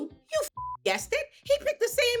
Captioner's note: beep